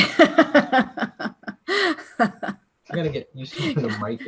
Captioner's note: laughter